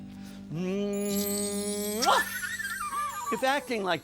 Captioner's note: smacks lips